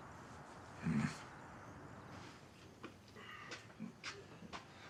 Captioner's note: Abe grunts; Abe groaning